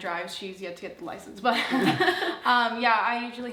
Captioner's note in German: lacht